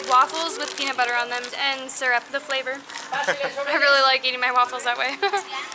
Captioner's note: giggles